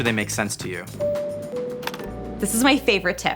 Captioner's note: beeping; clicking